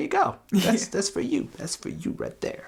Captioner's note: laughs